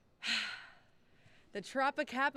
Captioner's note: sighing